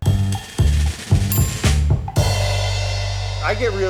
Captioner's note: upbeat jazzy music; bell dinging